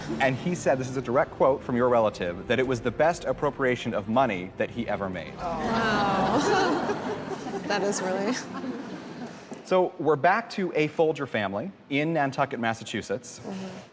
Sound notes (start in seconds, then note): 5.4 chuckles